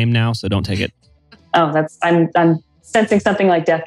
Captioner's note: laughs